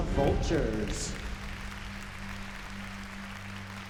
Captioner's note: applause